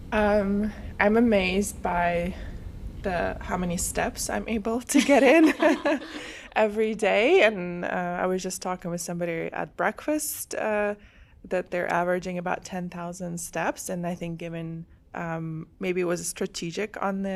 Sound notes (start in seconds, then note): 5.1 laughs